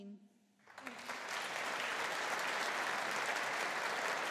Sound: audience applauding

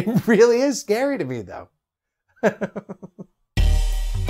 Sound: chuckles

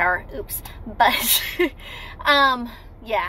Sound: laughing

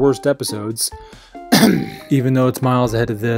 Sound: clears throat

